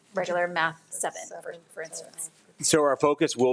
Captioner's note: speaks faintly